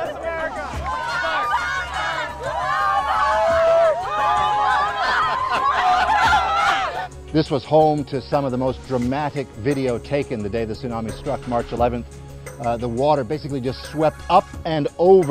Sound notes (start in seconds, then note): 4.9 crowd chants for Barack Obama; 5.0 laughs